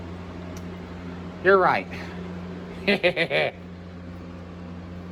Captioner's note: Caprice laughs